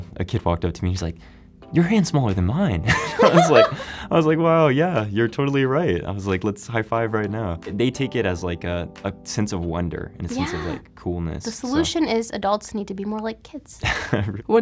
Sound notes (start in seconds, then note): 2.8 both laughing